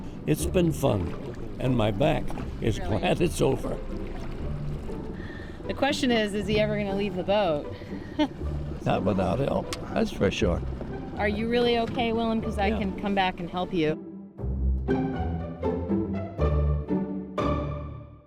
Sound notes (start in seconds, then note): 4.1 water rippling